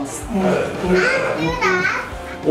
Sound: humming

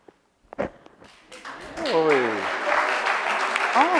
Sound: audience applauds

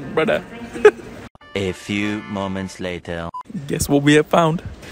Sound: chuckles

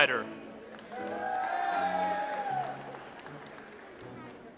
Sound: audience applauds

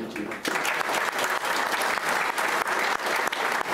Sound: applauding

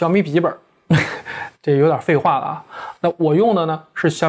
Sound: giggling

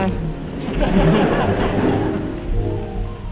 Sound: audience laughing; calm music

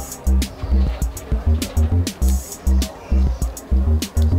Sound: crowd talking

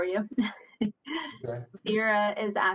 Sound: chuckles

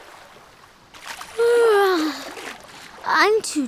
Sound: yawning

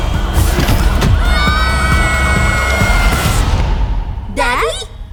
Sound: both screaming

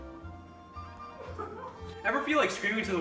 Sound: camera person laughs

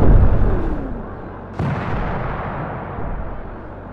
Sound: explosions

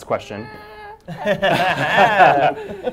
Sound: laughter

